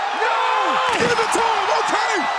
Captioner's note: crowd cheering